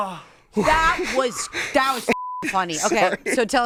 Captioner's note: beep